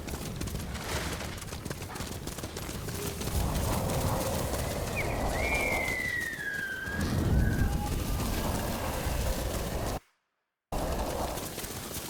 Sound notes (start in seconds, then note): 0.0 thunder rumbling; 4.8 whistling; 6.6 thunder rumbling